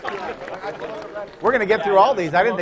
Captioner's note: applause; laughter